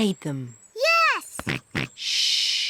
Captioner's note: snorts